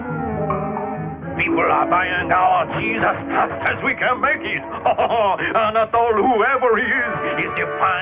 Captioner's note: laughter